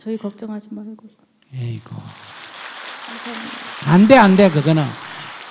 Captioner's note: audience claps